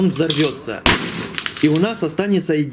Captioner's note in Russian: взрыв